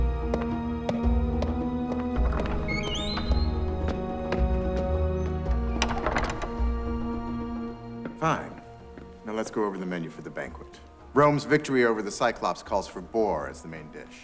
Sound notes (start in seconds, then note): 5.5 door closes